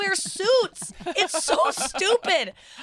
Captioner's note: laughing